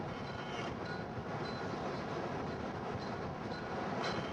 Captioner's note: rushing wind